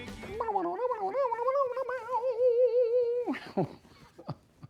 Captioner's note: air guitar sounds